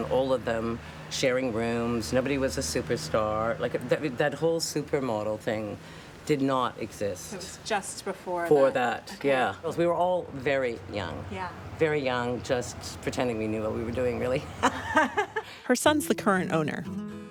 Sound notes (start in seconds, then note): 14.4 laughs